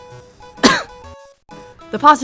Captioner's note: cough